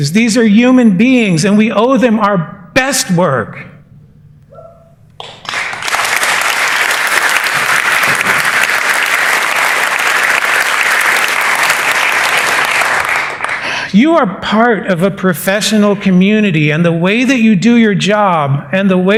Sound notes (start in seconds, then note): 5.2 cheers and applause